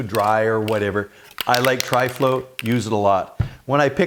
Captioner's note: can rattling